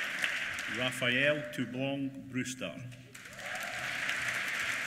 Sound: applause

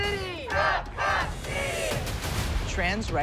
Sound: chanting

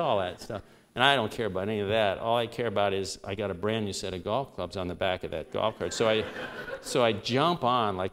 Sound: laughter

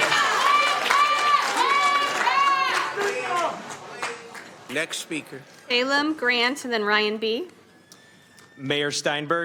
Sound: applauding

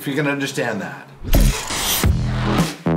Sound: static

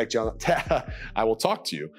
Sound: laughs

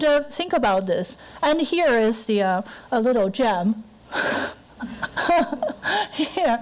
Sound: laughing

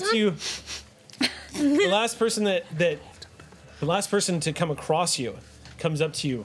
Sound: sniffs

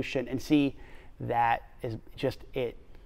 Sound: none

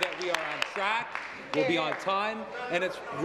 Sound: applause

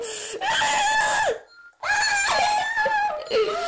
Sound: screams

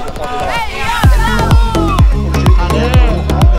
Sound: cheering

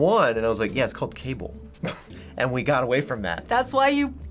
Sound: chuckles

